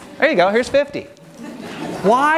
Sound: audience laughing

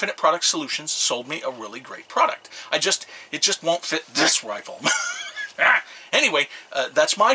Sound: argh!

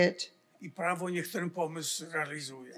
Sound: foreign language

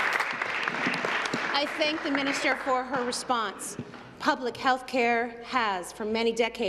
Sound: applause

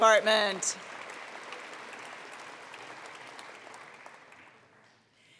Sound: attendees applauding

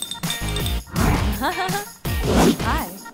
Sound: laughter

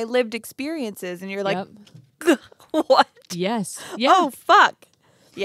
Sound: gasps

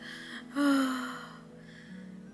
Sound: sighs

